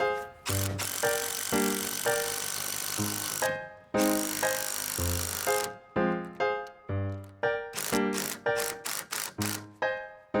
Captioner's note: sound coming from screwing wood